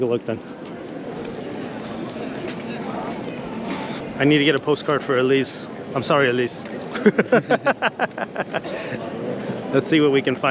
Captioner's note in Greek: Γέλια